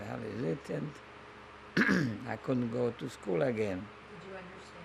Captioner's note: clears throat